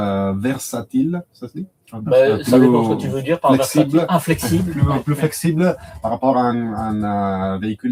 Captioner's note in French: rires